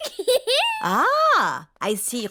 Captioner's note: giggles